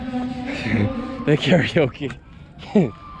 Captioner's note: laugh